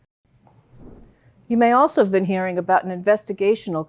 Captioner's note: air whooshing